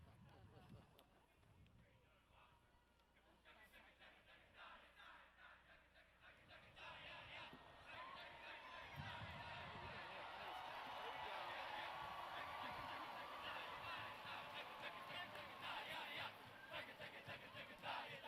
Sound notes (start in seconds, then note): 0.3 audience laughs; 3.5 band chants